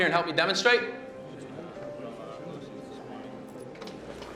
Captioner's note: crowd murmuring